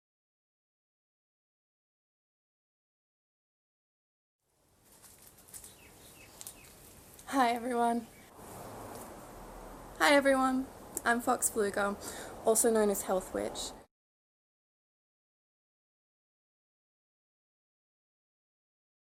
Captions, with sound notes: (LEAVES RUSTLE) (BIRDS CHIRP) Hi, everyone. Hi, everyone, I'm Fox Pflueger, also known as Health Witch.